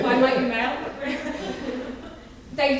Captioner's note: audience laughing; laughs